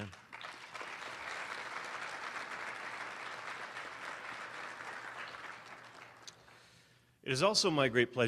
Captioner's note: applause